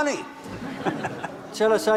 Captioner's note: para tamu tertawa